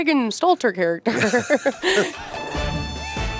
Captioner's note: laughter